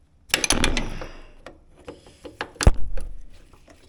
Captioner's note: parts clanking